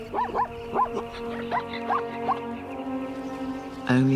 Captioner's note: barking